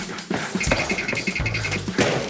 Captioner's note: clip-clop, clip-clop